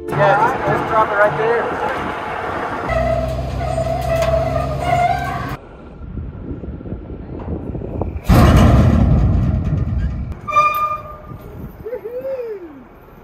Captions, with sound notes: Yeah, just drop it right there. (truck squeaking) (load dropping) (door squeaking) Woo-hoo!